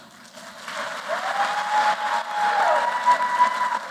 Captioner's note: applause